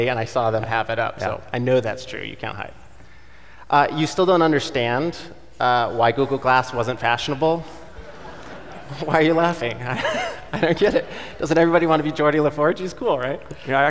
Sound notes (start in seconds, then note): 7.8 audience laughing; 7.8 laughing